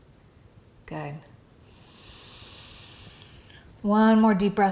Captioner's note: breathes deeply